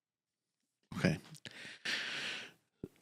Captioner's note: deep inhale